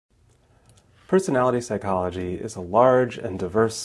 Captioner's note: voiceover